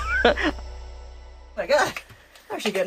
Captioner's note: laughs